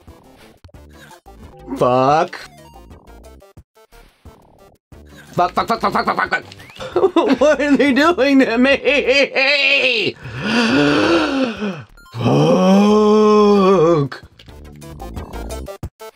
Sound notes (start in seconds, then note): 8.5 sobbing; 10.1 deep breath